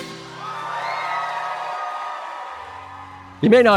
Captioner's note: audience cheers